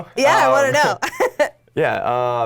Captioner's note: laughing